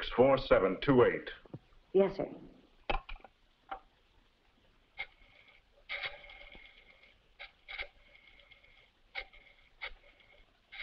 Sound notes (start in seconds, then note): 4.9 rotary phone dialing